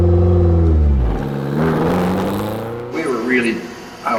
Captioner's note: track Sounds